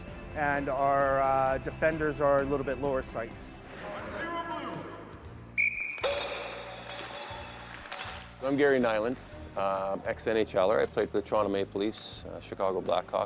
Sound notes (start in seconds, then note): 5.5 whistle blows